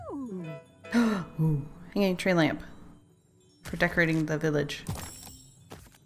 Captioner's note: gasp